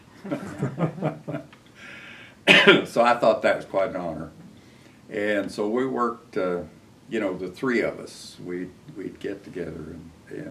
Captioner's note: laughter